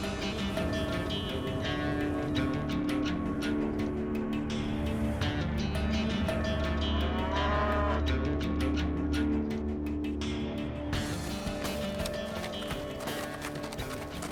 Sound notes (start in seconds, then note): 7.0 cattle moo